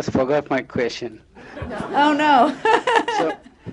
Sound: laughter

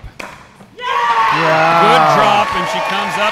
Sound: audience cheering

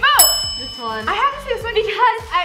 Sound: bell rings

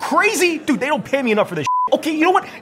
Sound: beep

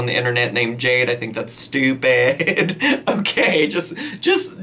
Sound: laughs

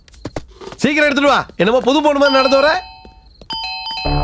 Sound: door bell rings

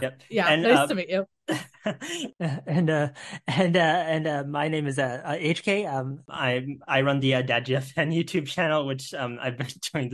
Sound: nervous laughter

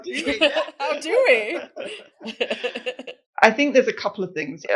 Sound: chuckle

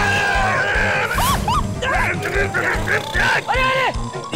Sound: screams

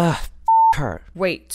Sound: beep

